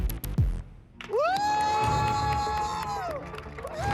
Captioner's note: audience applauding; cheering; dramatic music playing